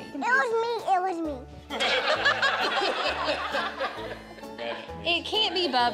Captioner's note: laughter